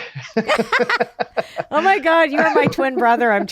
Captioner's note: both laughing